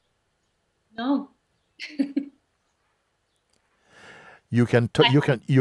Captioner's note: lacht